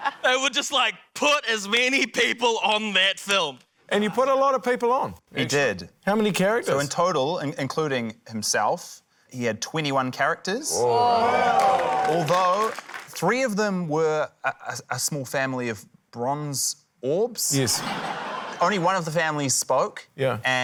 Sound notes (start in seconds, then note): 0.0 laughter; 10.7 audience exclaims, cheers